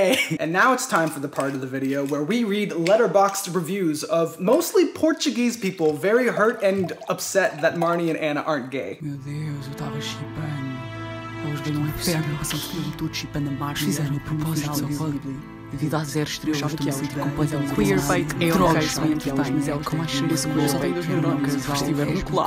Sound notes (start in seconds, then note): 9.2 speaking Portuguese